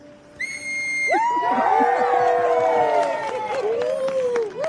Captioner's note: blows whistle; cheering